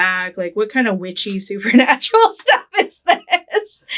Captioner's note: laughing